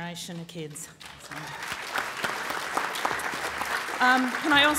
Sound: applause

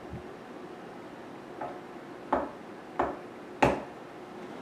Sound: loud Knocking

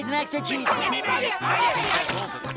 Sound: yelling

